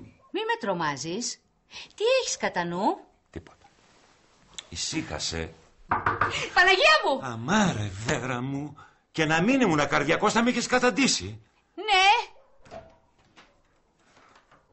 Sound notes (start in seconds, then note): 5.8 door knocking